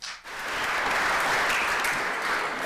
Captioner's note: audience applauding